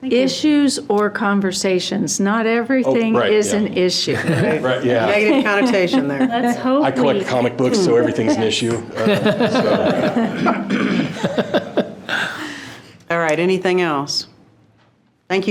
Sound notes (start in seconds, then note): 10.2 trustees laughing